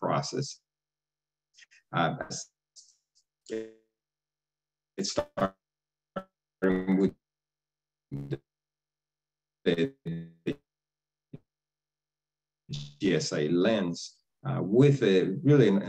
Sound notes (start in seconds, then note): 0.6 distorted audio